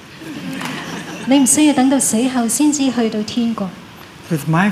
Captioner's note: laughter